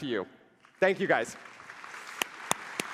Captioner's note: applause